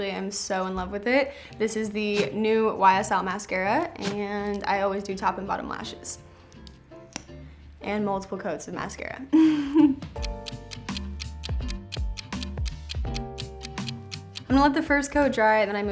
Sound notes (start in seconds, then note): 10.1 laughs; 10.1 clock ticks